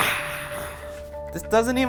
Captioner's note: sighing